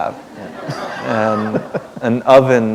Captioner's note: laughter